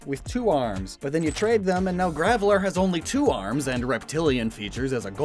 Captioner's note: glitch SFX